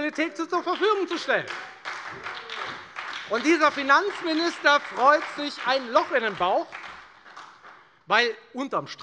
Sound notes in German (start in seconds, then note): 1.7 Beifall bei der FDP und bei Abgeordneten der SPD